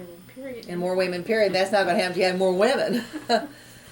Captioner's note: laughs